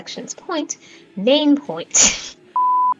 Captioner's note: laughs